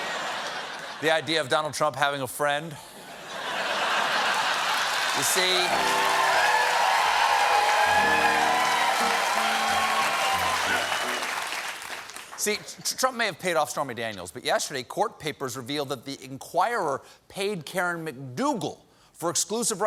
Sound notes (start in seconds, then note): 3.0 laughter; 4.2 cheers and applause; 9.4 piano riff